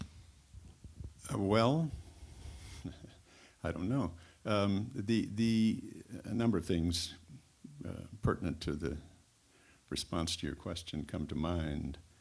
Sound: chuckles

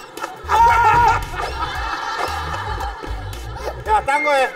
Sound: lost 4 times in a row, screaming

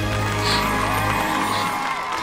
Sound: cheering

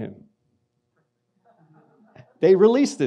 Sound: audience laughs

